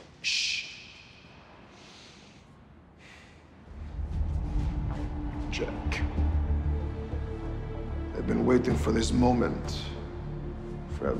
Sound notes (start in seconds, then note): 0.6 breathes deeply